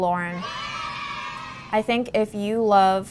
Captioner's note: children cheer